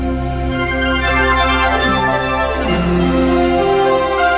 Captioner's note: air whooshing